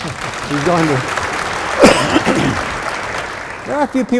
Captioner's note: audience applauding